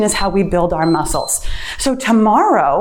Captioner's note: timer beeps